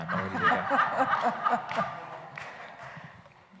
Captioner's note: laughing